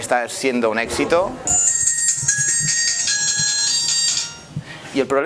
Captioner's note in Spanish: suena teléfono móvil